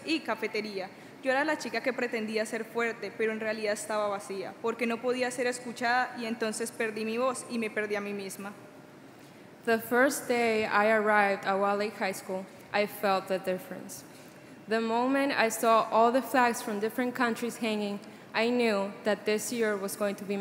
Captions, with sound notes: [Speaking Spanish] [Speaking Spanish] The first day I arrived at Wilde Lake High School I felt the difference. The moment I saw all the flags from different countries hanging I knew that this year was going to be